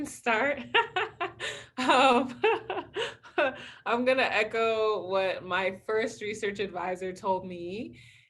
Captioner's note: laughs